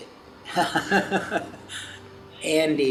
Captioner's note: laughs